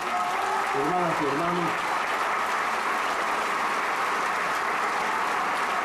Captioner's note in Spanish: Aplausos